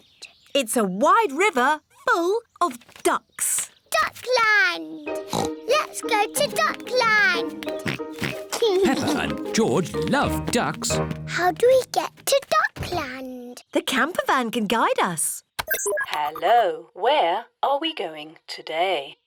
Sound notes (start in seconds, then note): 5.2 oinks; 7.6 oinks